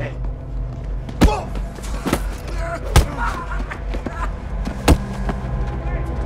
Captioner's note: bat whacking; man grunting